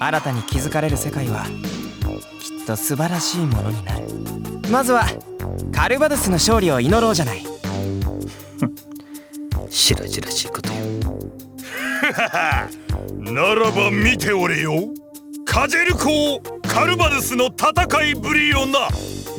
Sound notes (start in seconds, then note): 11.6 laugh